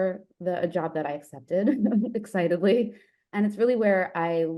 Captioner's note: chuckles